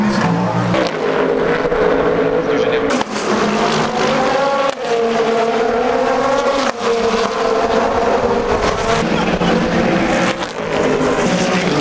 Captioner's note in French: Son de moteurs